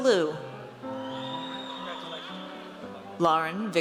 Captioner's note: audience cheers